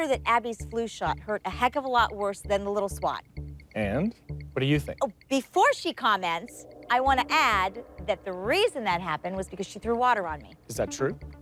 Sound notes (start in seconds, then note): none